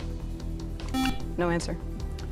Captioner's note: buzzer